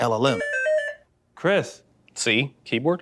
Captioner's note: beeping